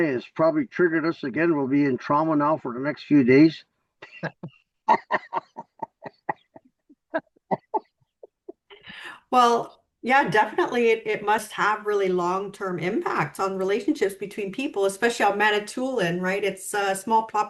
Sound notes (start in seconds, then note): 4.0 laughs